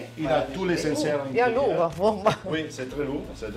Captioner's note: in Italian